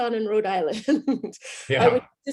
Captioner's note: laughs